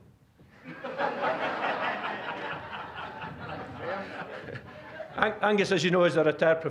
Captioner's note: audience laughing